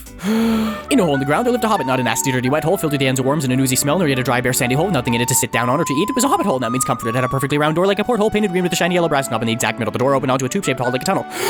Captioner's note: reciting the beginning of the Hobbit super fast